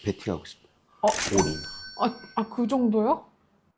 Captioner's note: Big spender sound effect